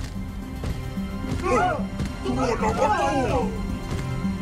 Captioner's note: epic music; robots exclaiming, overlapping